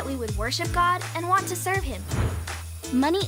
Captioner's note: whooshing